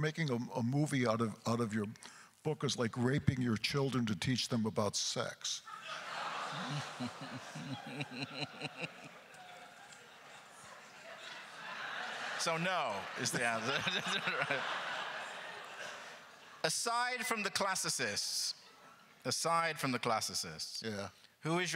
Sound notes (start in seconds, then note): 5.9 chuckles; 5.9 crowd laughter; 14.1 crowd laughter